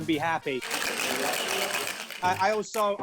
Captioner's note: ice rattling